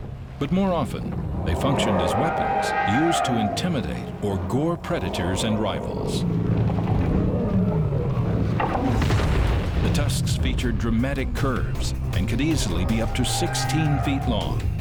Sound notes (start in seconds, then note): 6.0 roaring